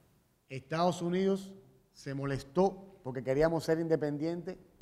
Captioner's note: speaking in Spanish